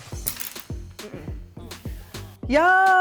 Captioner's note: chopsticks clanking